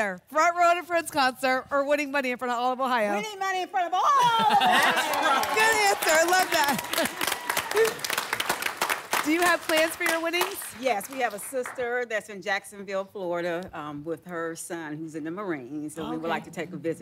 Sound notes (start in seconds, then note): 7.5 applause and cheering